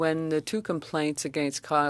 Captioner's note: speaking French